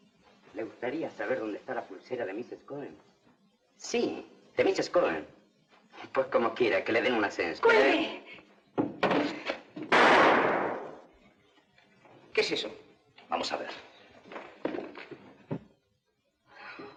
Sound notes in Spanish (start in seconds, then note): 9.8 Disparo